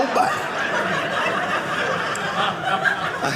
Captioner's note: audience laughing